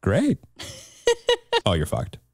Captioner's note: chuckles